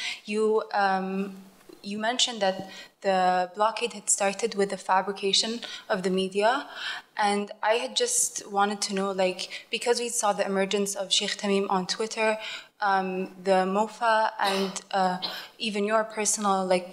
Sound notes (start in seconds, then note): 10.8 foreign language